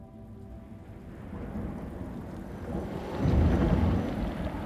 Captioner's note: thunder crashing